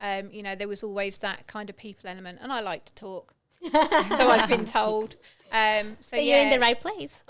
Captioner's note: laughing